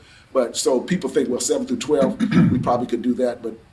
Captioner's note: clears throat